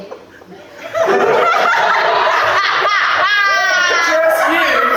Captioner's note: laughter